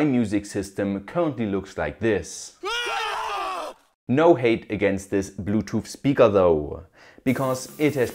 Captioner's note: scream